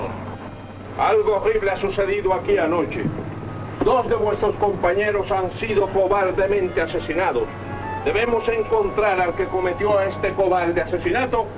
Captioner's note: speaking spanish